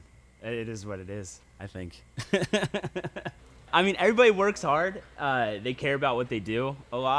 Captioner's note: laughs